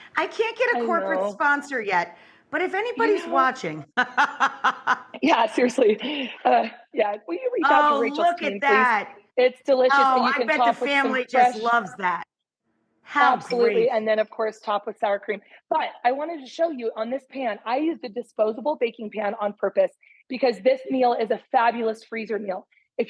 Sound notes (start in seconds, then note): 3.9 laughing